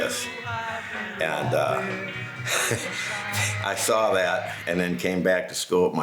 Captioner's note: laughs